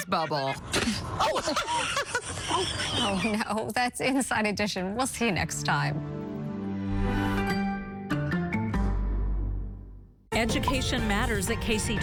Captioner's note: laughter